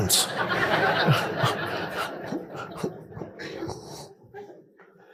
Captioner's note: audience laughing